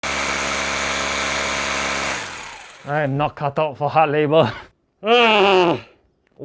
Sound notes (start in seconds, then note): 0.0 drilling sounds